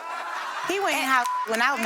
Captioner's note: audience laughing; beep; beep